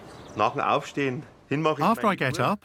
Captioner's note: speaking in foreign language